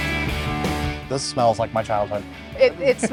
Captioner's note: laughs